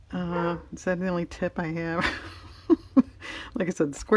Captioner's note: laughs